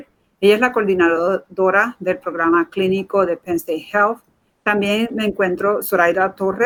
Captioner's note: speaking in Foreign Language